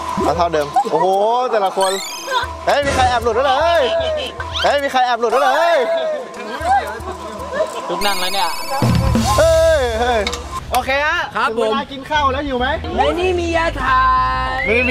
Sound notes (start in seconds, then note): 6.5 machine moving